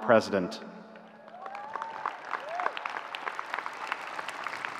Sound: audience cheering

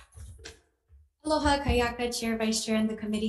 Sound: speaking in foreign language

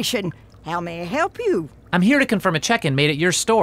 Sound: water running

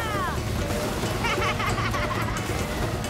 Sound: laughing

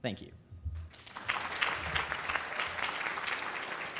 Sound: applause

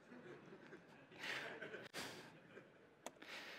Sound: laughter

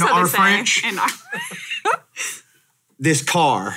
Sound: laughs

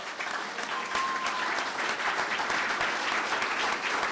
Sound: clapping

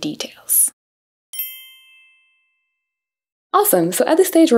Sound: chime rings

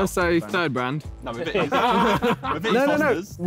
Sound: all laughing

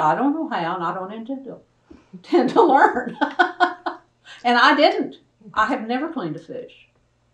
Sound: laughs

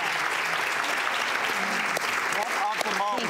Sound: audience applause

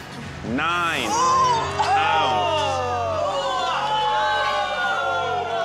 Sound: spectators remarking

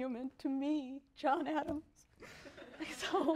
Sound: laughter

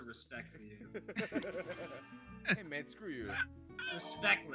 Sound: laugh

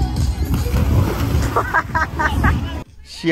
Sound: laughing

